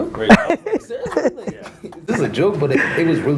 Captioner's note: laughs